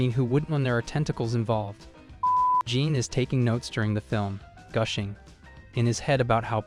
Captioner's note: beep